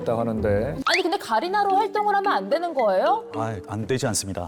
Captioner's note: curious sound effect